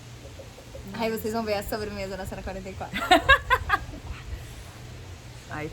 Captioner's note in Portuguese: Everyone laughing